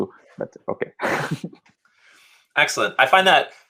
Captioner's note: laughing